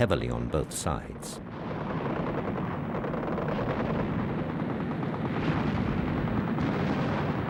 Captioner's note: explosions; gunfire